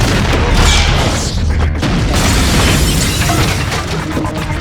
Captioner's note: gunfire; explosion